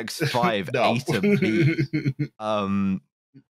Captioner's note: chuckles